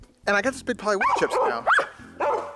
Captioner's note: dogs bark